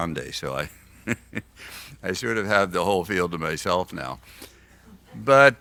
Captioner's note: laughs